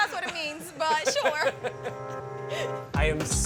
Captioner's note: laugh